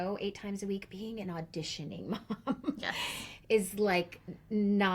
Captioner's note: chuckles